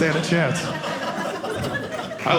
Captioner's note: audience laughing